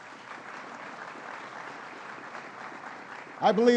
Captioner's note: applause